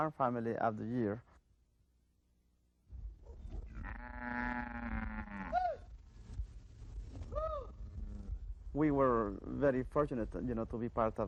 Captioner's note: cows mooing